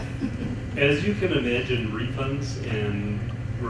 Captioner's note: chuckles